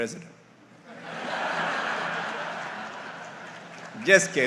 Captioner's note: audience laughs